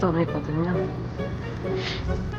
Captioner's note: sniff